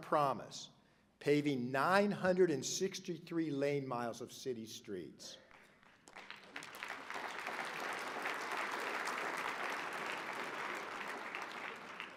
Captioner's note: applause